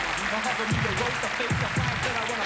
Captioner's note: applause